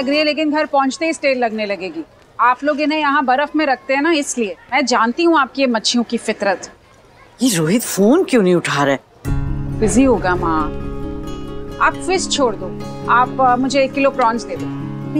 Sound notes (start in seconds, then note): none